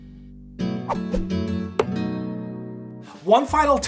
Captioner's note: upbeat music; air whooshing